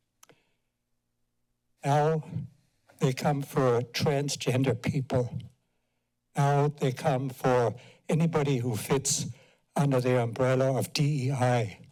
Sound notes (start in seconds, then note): 5.6 pause